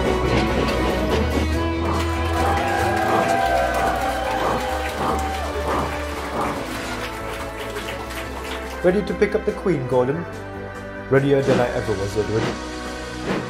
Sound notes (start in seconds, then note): 1.4 workers clap and cheer